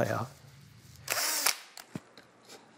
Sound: buzzing of drill

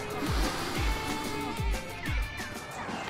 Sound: sniffs

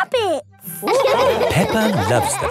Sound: all laughing

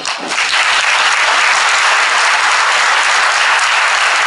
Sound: crowd applause

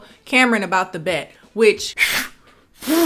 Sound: blows air

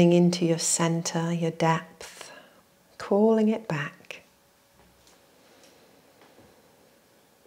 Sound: inhales and exhales

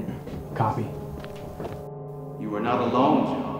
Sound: footsteps fading

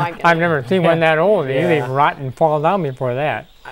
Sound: laughing

